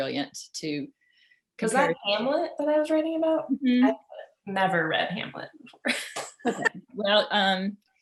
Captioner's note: laughs